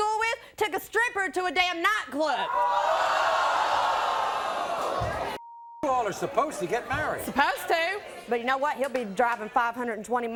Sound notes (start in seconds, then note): 2.2 audience gasping